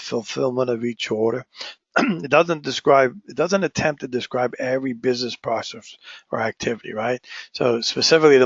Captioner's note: cough